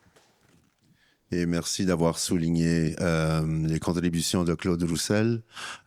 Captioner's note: speaking in French